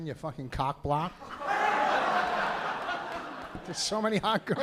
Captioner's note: laughter